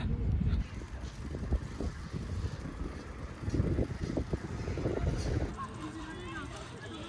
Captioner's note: wind blowing